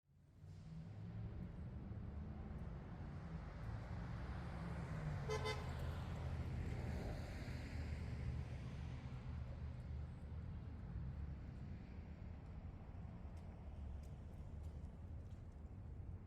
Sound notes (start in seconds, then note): 0.4 faint cars; 5.2 car horn